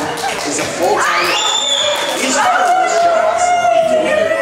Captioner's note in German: Leute plaudern